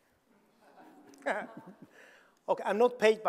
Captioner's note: audience laughing; chuckles